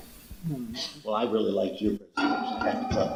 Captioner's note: background clattering